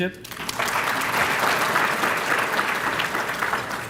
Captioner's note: applause